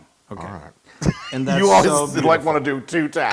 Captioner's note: laugh